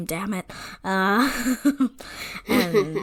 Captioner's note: laughs